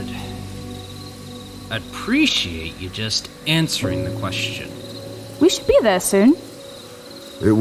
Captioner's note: sigh